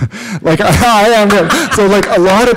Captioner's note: laughter